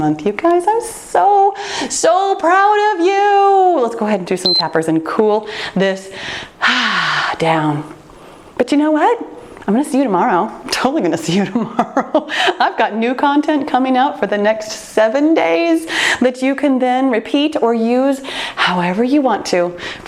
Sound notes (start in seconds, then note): 4.5 timer turns off; 7.4 sighs; 11.4 laughs